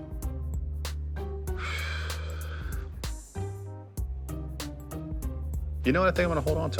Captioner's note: sighs